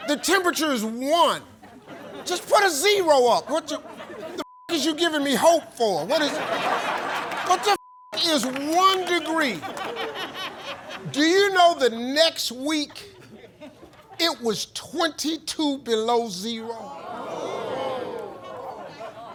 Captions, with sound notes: The temperature is one. Just put a zero up. What ya, the (beep) is you giving me hope for? What is... (Audience laughs) What the (beep) is one degree? Do you know the next week, it was 22 below zero?